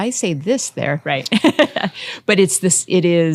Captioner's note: laughing